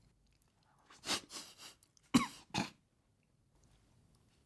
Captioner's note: cough